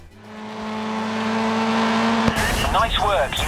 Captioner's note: engine revving